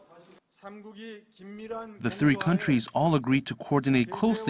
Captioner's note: Korean